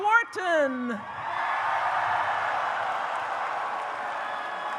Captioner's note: audience cheers